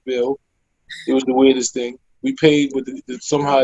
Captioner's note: laughing